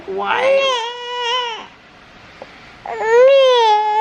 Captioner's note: cries